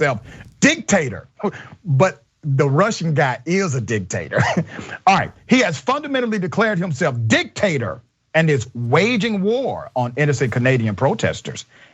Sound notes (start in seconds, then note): 4.3 laugh